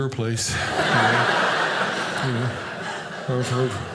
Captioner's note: audience laughing